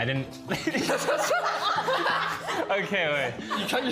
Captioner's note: group laughing